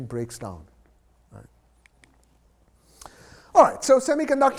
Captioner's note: remote clicks